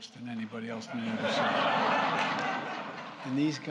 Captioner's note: laughter